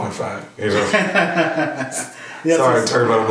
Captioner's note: laughs